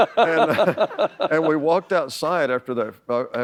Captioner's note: laughter